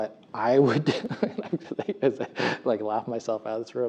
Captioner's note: laugh